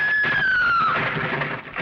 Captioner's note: scream